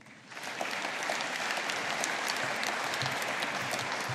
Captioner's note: audience applauding